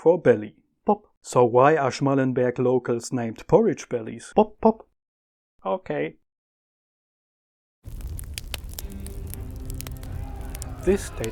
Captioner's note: pop-pop